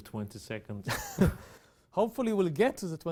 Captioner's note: both laugh